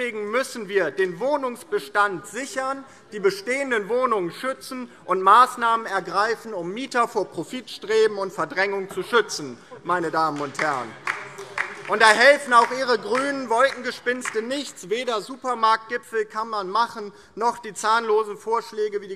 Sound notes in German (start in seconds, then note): 10.2 Beifall DIE LINKE